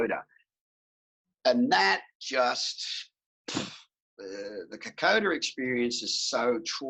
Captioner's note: sighs